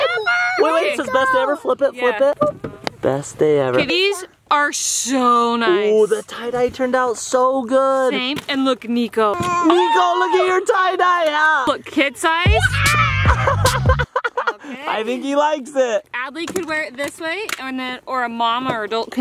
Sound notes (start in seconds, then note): 12.4 laughs; 13.0 shouts